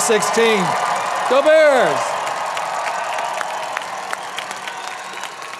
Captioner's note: audience applauding